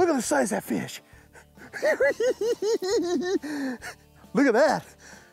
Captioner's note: giggles